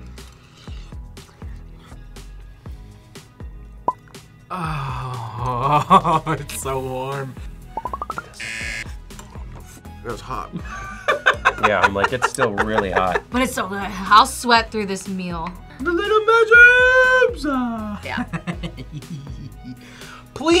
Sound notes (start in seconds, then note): 5.5 laughs; 8.4 buzzer; 10.6 laughs; 18.1 laughs